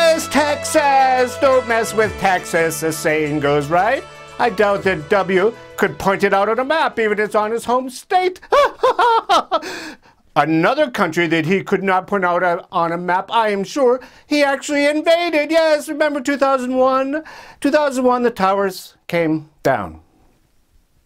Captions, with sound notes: Texas. Don't mess with Texas as the saying goes, right? I doubt that W could point it out at a map even it's his home state. (laughs) Another country that he could not point out on a map, I am sure, he actually invaded. Yes. Remember 2001? 2001, the Towers came down.